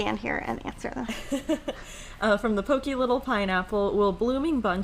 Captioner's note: laughing